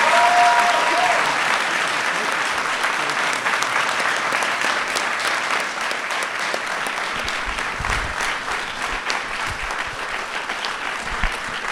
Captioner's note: applause